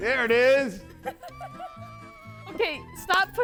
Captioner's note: instructor laughs